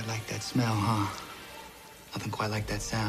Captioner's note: sizzling